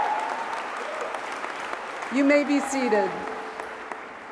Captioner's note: cheers and applause